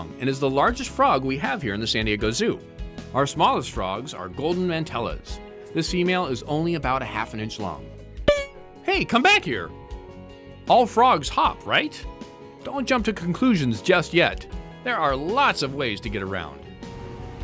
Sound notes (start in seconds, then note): 8.3 frog boings